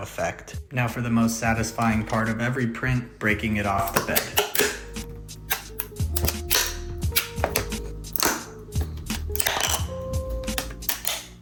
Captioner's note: crack* *crunch